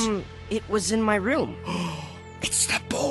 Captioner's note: gasp